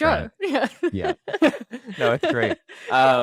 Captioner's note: laughs